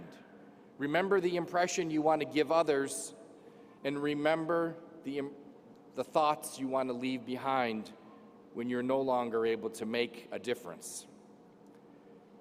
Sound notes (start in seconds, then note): none